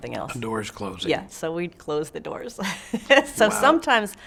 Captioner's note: laughs